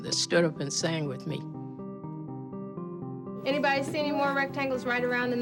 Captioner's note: soundbite of tv show, "sesame street"